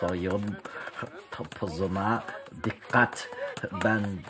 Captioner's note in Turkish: Televizyon sesi